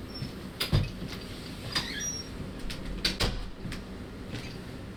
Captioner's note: door Opening and Closing